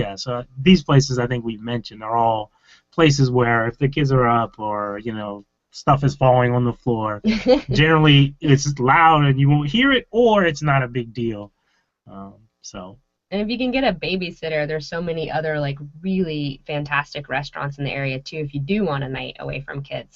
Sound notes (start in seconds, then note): 7.2 laughing